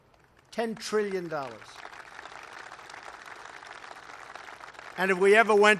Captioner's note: applause